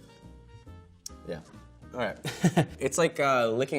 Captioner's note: chuckling